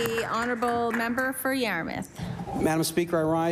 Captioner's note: applause